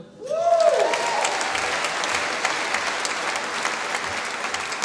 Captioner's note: applause